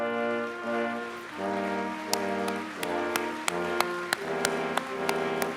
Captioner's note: applause